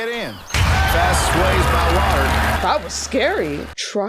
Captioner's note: canned cheering